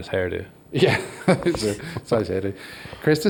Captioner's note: laughs